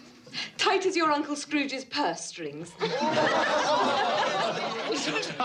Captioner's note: laughter